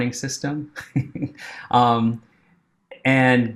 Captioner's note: chuckling